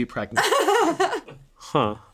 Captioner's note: laughing